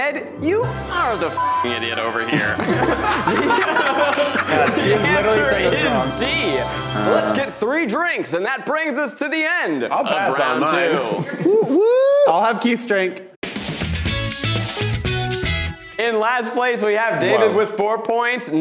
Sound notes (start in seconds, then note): 2.2 laughing; 13.4 upbeat music